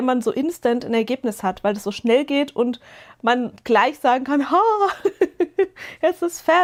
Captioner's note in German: gelächter